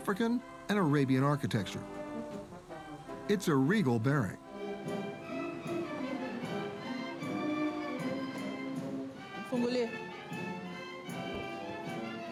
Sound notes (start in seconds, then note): 6.2 fanfare music; 9.5 speaking in Swahili